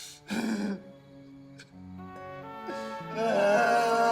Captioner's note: sobs